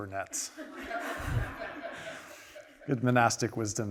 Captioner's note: audience laughing